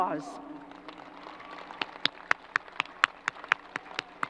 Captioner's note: crowd applause